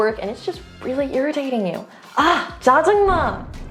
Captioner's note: speaking in Korean; energetic transition music